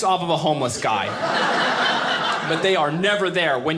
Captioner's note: audience laughing